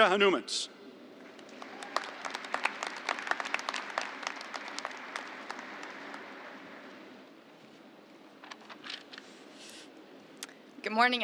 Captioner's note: applause